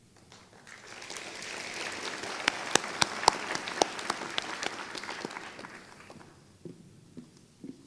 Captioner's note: applause